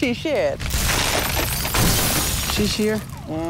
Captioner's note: glass breaking